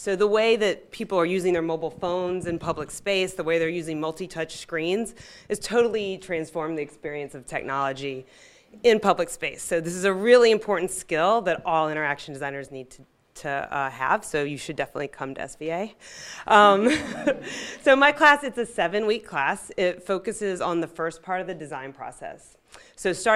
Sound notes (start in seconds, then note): 16.4 audience laughing